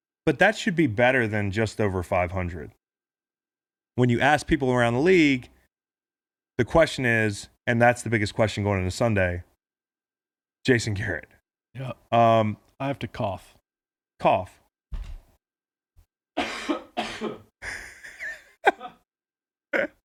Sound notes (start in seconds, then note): 16.4 coughing; 18.6 laughing